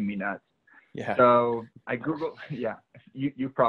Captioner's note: laughing